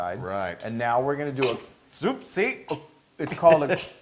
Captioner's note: laugh